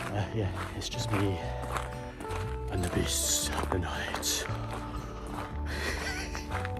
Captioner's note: horror voice